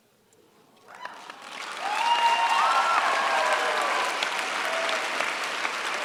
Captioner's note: cheers, applause